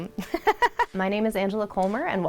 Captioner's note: laughs